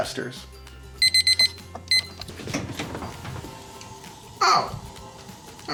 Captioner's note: timer beeping